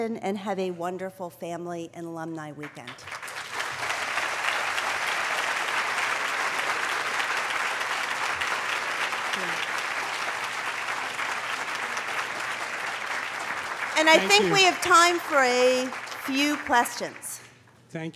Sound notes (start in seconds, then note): 2.6 applause